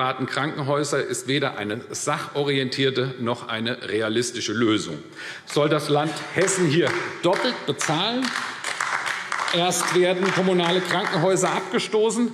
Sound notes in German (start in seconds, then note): 8.1 Beifall AfD